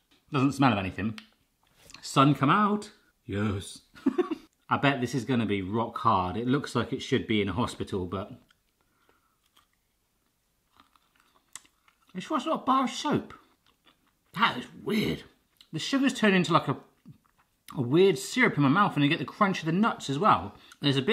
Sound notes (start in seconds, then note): 4.0 laughs; 10.6 chewing